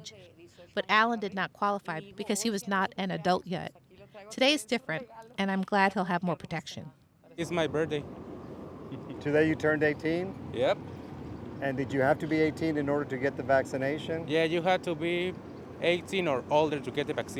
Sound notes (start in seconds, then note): 9.0 chuckles